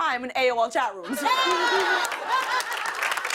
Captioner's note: laughter, applause